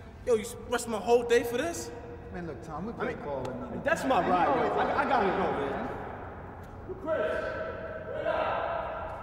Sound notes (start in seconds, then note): 4.6 chattering